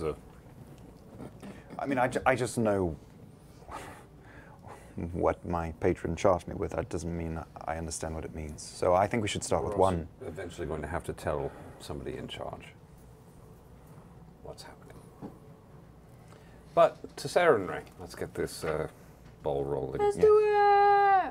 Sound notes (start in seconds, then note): none